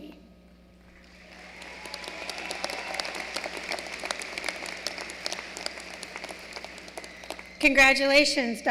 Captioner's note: applause